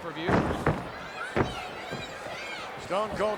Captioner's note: Stone Cold thudding